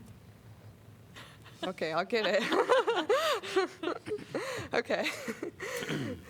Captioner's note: laughter